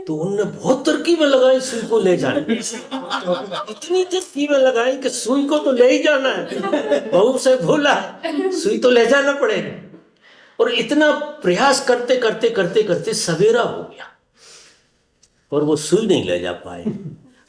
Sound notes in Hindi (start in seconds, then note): 6.5 हंसी